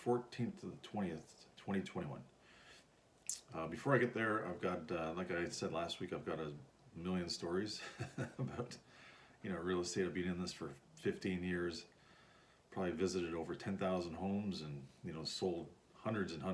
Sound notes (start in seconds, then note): 7.7 chuckles